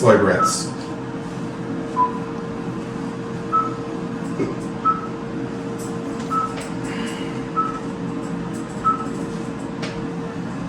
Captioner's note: heart monitor beeps slow and steady